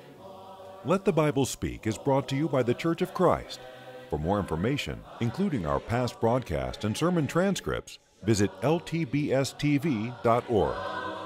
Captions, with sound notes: - [Voiceover] If you would like a free copy of today's sermon, would like to receive the free Bible study course, or want more information about the Churches of Christ, contact us at the address on your screen.